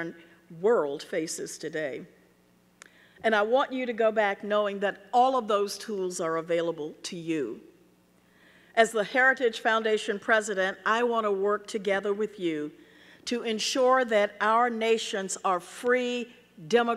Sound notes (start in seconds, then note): none